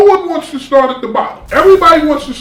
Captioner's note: crashing noise